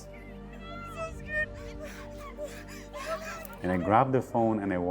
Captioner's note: woman whimpering